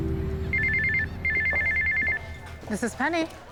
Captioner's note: cell phone ringing